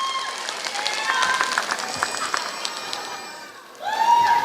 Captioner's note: applause